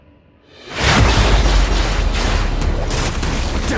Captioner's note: music and splashy fighting sounds